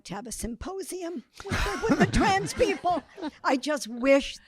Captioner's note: audience laughing